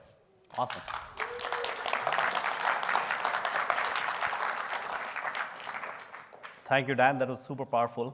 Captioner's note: applause